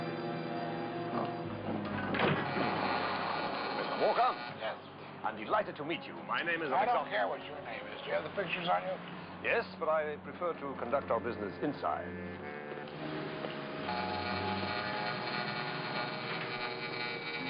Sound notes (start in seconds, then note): 12.2 door buzzing